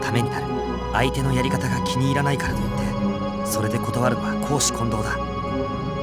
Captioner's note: whisper